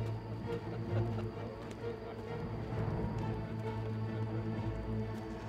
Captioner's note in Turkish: Gülme sesleri